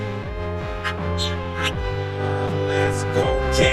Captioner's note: chirping